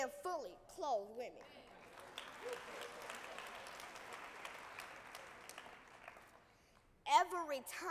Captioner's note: applause